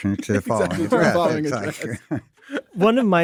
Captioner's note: laughs